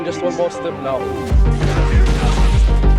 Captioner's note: fighters grunting